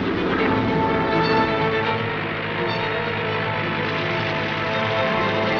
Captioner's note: plane engine roaring